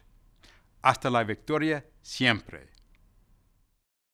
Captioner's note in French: non-english speech